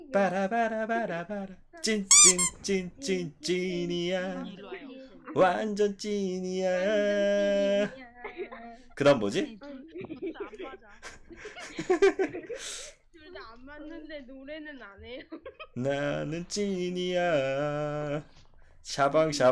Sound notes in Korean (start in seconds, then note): 9.7 웃음